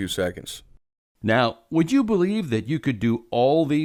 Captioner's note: voiceover